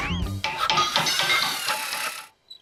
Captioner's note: hammering and metal clanging